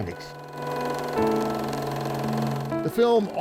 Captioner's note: video tape humming